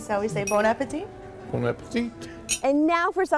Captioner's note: clink